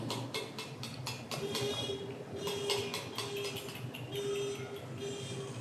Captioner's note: car horn